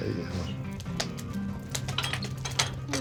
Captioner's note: flames crackling